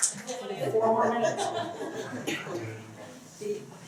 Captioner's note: laughter